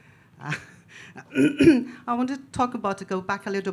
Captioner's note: laughs; clears throat